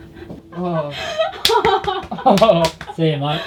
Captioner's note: all laughing